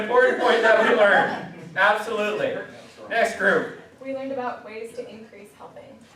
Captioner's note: class laughs